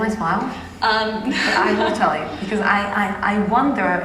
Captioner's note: laugh